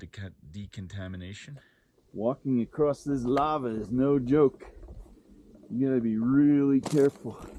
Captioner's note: ground crunching